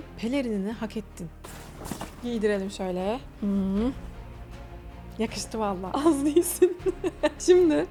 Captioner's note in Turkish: kahkaha